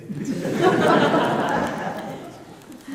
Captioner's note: laughter